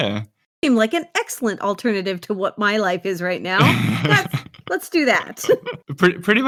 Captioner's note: laughs